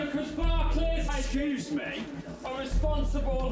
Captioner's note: man 1 speaking; man 2 speaking